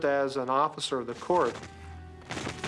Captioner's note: guns firing